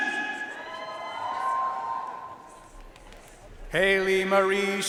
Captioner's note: audience cheering and applauding